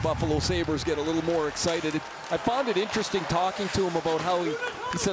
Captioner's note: crowd NOISE